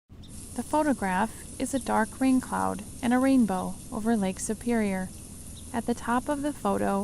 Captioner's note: rain sounds